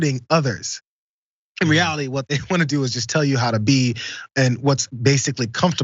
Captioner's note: laugh